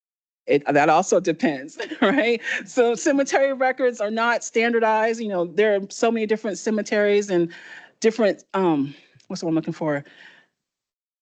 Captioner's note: laughter